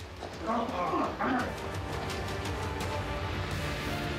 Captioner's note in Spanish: Quejidos y jadeos